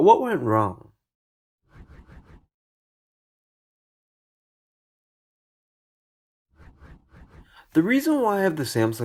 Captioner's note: transition swooshes